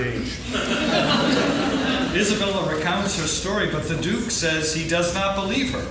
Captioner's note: laughing